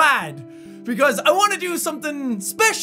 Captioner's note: inhale